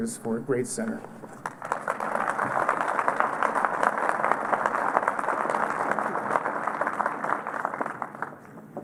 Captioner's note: applause